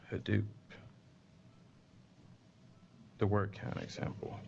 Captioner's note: pause